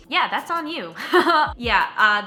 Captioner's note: laughs